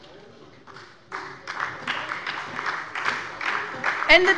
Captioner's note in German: Beifall bei der SPD